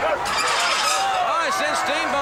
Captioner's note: metal scraping